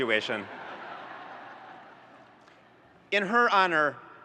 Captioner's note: audience laughs